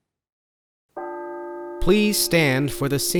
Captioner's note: bell tolling